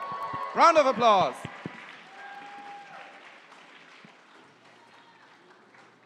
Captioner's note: cheering and applause